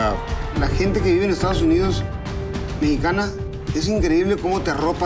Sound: speaking Spanish

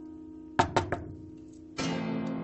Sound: knocking on the door

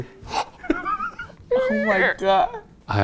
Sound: gasps; all laughing

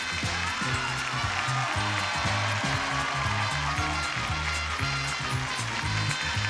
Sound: audience cheering; exciting music

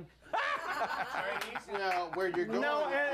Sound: laughter

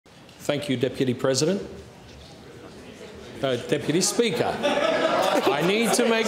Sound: laughter

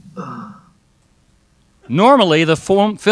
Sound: sighs

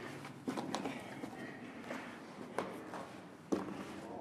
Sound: feet crunching

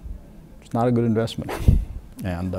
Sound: laughing

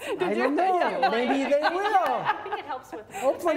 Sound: all laugh

